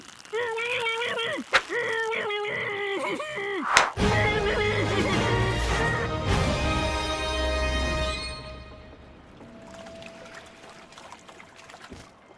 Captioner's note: duct tape murmuring and screaming haha dummy has duct tape on can't get it off